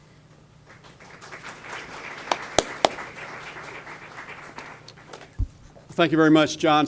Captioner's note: audience applause